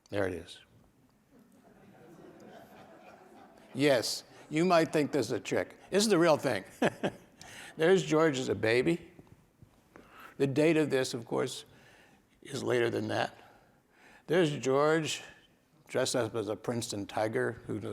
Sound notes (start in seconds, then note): 1.4 audience chuckles; 6.0 laughs